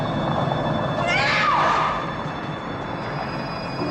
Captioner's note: screams